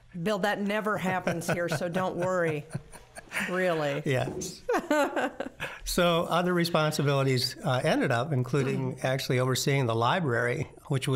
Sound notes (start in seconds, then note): 1.2 laughing